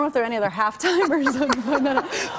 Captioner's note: laughter